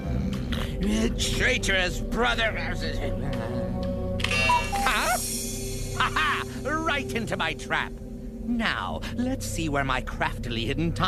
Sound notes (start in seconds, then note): 0.0 snoring; 4.2 cuckoos